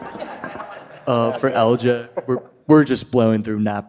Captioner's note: audience laughing